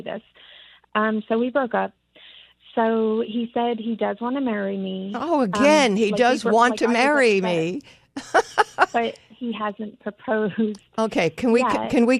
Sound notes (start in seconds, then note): 8.1 laughs